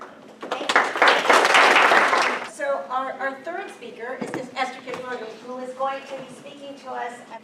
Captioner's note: applause